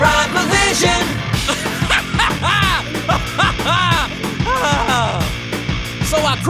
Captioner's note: maniacal laughter